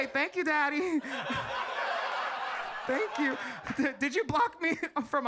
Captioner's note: audience laughs